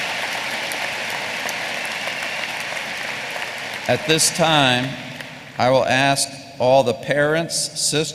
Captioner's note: applause